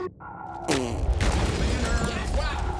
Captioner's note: gun firing